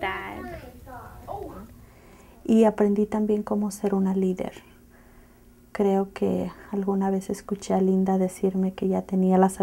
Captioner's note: speaking in Spanish